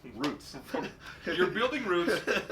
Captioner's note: laughing